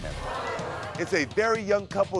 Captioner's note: crowd gasping